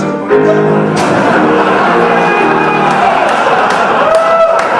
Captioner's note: crowd laughing